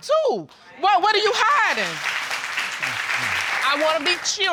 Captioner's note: audience applauding